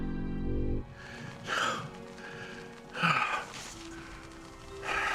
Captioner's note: sighing